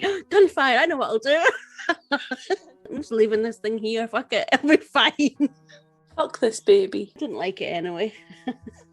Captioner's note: laughs